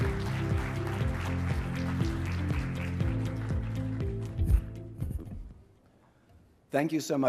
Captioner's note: applause